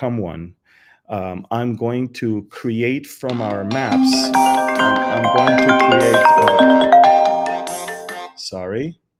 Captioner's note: the phone rings